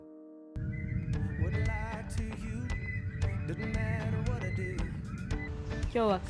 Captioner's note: birds chirping